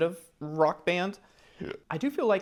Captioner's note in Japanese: げっぷ